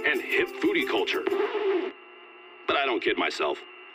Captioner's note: record scratch